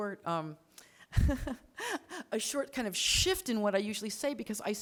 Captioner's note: laughs